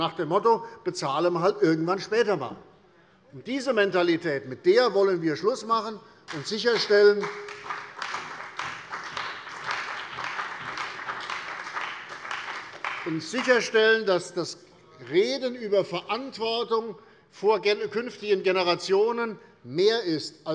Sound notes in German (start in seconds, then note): 6.2 Beifall bei der CDU und dem BÜNDNIS 90/DIE GRÜNEN